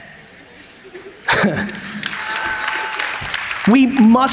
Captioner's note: audience applauds